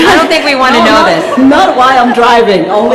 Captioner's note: laughter